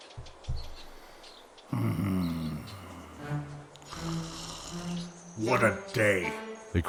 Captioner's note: snort